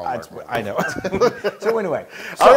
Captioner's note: laugh